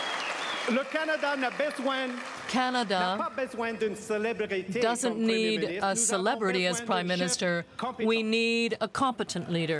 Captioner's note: applause